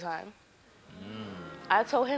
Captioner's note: audience groans